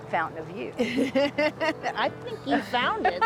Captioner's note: laughs